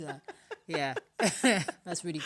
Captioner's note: laughter